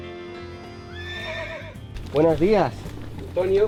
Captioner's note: traditional Mexican music; horse neighing